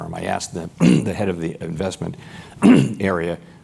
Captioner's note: cough